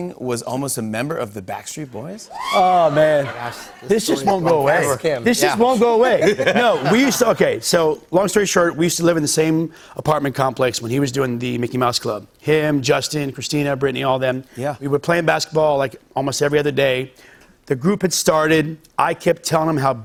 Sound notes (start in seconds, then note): 6.0 laughter